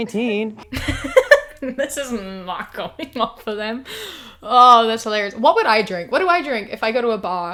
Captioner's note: laughs